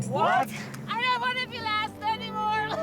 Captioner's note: coughs